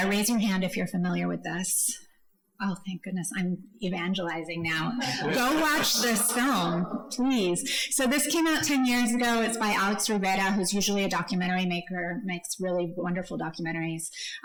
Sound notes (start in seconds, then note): 5.0 audience laughs